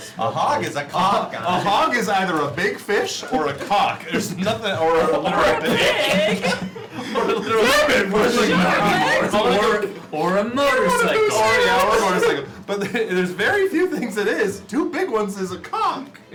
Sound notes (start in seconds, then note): 8.2 laughter, unintelligible group chatter